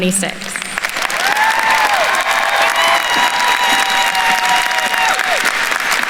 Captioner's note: attendees cheering and applauding